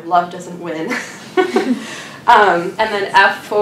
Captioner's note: laughs